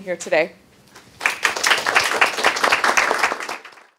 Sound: clapping

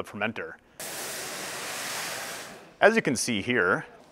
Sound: malt poured into water

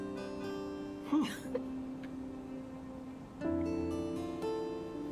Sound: chuckling

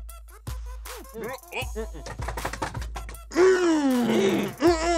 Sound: breathing and grunting

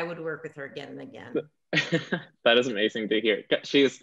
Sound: chuckling

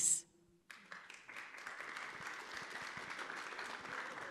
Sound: audience claps

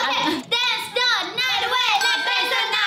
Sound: speaking in Korean; bell rings

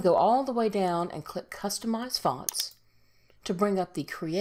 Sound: mouse clicks

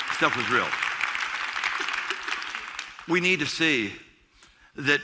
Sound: applause

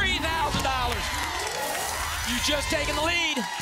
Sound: audience applause

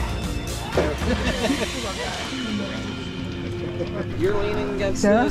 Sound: crowd chattering

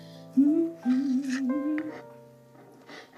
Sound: humming

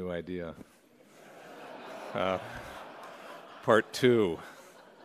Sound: laughter

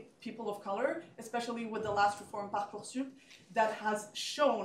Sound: french

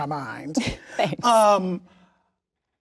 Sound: laughs

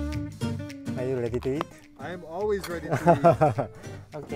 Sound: laughing

